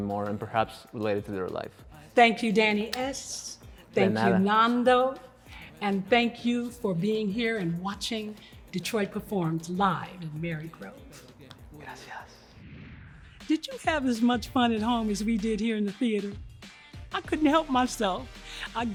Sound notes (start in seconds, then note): 4.2 replies in Spanish; 12.2 air whooshing